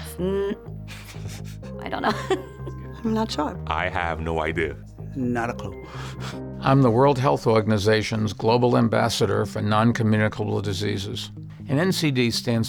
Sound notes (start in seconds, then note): 1.9 giggles; 2.0 snickers